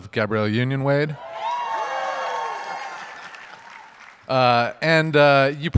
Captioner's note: audience cheers